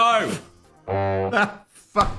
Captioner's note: horn honks